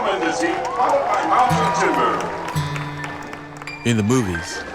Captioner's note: applause